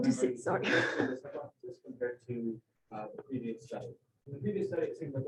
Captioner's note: chuckles